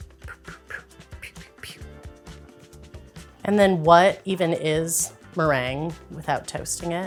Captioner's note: swoopy sound effects